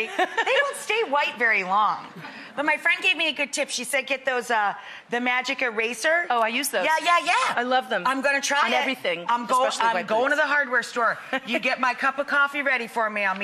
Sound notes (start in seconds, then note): 11.0 chuckling